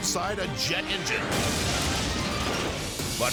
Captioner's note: engine exploding